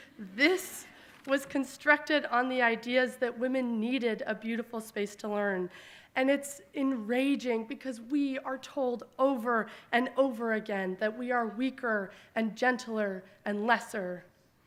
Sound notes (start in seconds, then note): none